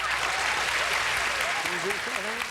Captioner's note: audience applauding